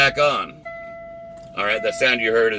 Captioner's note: beeping